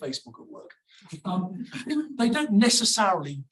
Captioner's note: audience laughs